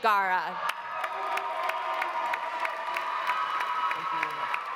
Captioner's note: audience applauding; audience cheering